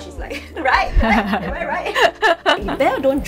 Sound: laugh

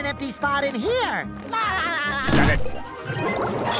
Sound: laughs

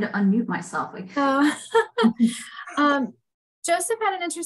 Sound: laughter

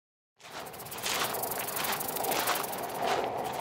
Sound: footsteps

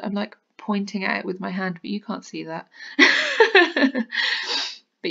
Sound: laughs

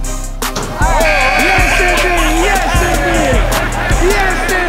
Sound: crowd cheering

